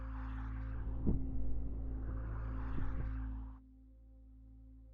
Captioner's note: air whooshing